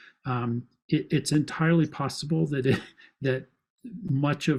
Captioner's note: laughs